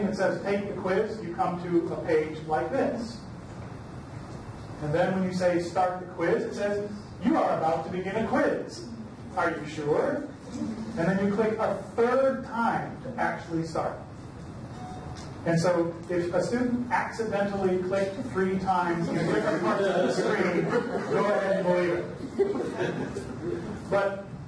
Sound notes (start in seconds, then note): 19.0 audience laughter drowns out speaker; 22.3 audience laughs